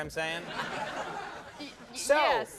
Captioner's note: crowd laughs